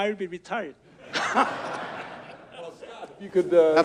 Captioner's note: audience laughs